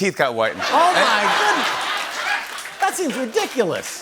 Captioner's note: laughter